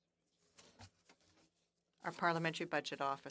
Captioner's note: speaking French